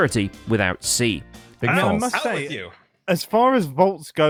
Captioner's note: all shouting